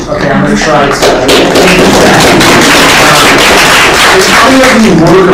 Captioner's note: applause